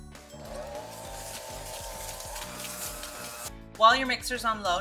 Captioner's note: mixer whirring